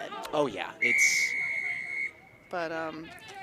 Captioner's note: whistle